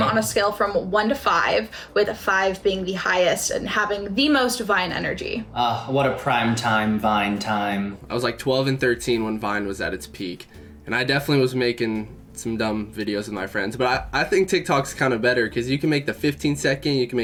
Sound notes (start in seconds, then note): none